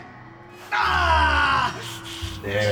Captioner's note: screams